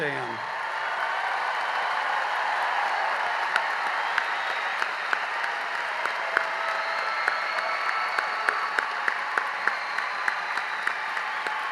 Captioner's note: cheering and applause